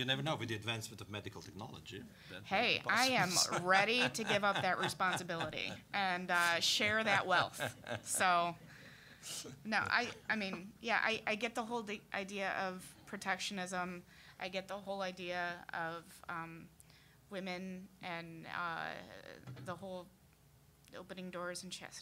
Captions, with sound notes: >> YOU NEVER KNOW, WITH THE ADVANCEMENT OF MEDICAL TECHNOLOGY. >> HEY, I AM READY TO GIVE UP THAT RESPONSIBILITY AND SHARE THAT WEALTH. (all laughing) SO, NO-- I MEAN, YEAH, I GET THE WHOLE IDEA OF PROTECTIONISM, I GET THE WHOLE IDEA OF WOMEN, AND THE WHOLE OPENING DOORS